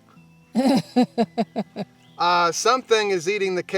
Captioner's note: laughter